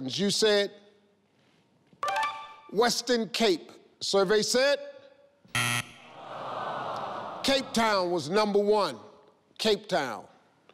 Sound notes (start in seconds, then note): 5.6 buzzing; 6.1 crowd sighs